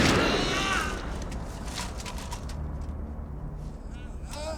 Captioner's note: gun clicks; gunshots banging; Becker groaning; somber music